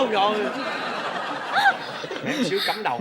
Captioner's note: laughing